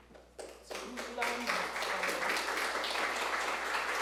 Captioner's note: audience clapping